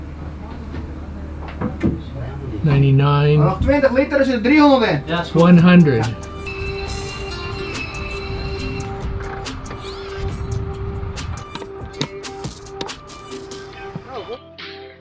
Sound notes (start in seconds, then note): 4.6 in foreign language; 7.3 light music